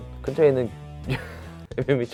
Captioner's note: laughs